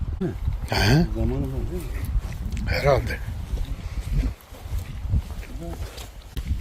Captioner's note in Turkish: boğazını temizler